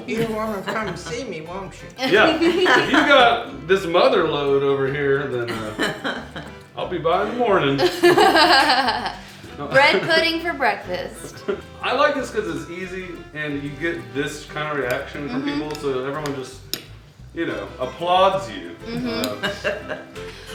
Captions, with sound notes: - Now you'll come see me, won't you? - Yeah. (laughing) If you've got this mother load over here then, I'll be by in the morning. (laughing) - Bread pudding for breakfast. - I like this cause it's easy. And you get this kind of reaction from people. So everyone will just, you know, applauds you.